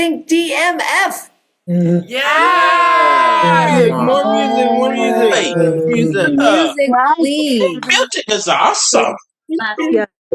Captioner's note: cheering